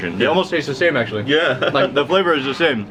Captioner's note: chuckles